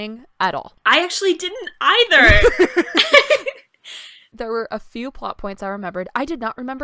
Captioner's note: laughter